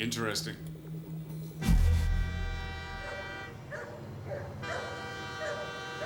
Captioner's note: dog barking; train whistle blowing